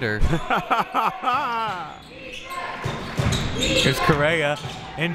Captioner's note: laughing